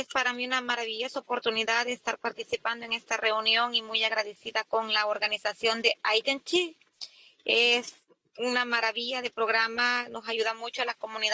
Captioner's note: spanish